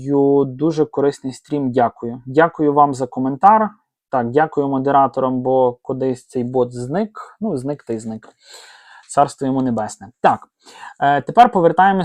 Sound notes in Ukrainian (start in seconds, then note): 8.4 сопіння